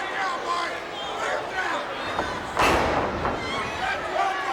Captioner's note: crowd chattering